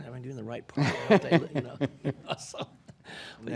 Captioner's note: laughing